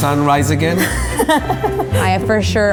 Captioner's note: laughing